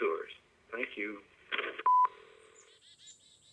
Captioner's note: beep